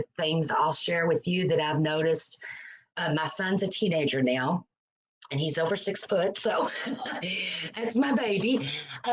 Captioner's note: laughs